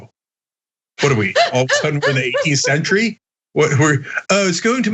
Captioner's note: laugh